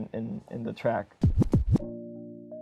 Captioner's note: deck spins